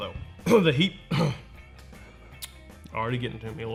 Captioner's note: clears throat